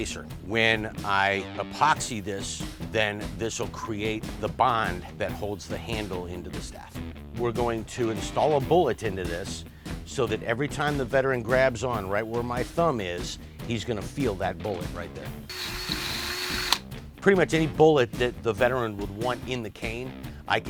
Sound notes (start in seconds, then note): 15.5 power drilling